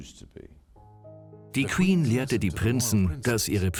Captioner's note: voiceover